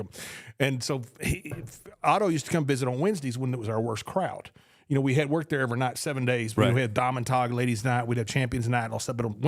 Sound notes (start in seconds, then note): 0.0 spits; 7.5 speaks foreign language